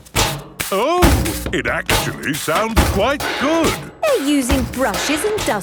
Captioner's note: rhythmic clanging